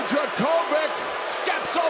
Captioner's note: crowd cheering